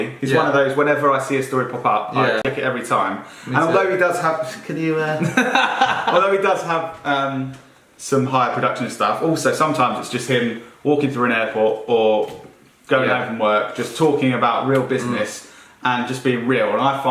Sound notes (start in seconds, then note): 5.2 laughing